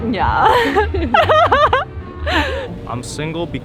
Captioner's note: speaker laughing